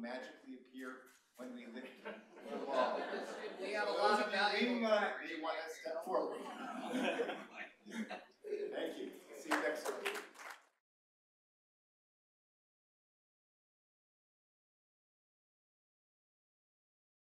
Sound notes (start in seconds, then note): 2.9 laughter; 14.6 applause